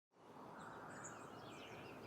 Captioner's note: birds chirping